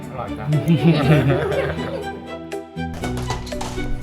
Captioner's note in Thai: เสียงหัวเราะ